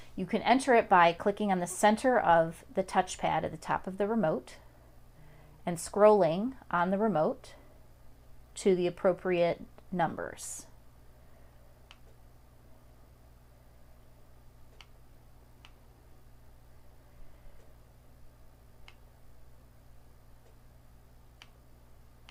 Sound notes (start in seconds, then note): 12.0 clicking numbers